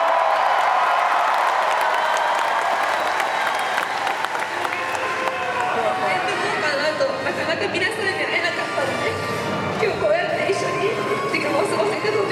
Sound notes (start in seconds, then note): 0.0 cheering continues; 5.7 speaking Japanese